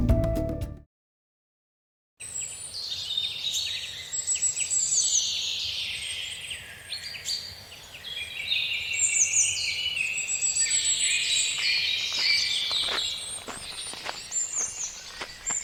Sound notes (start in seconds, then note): 4.4 birds singing; 13.1 sound of footsteps on gravel